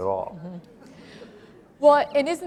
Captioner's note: laughter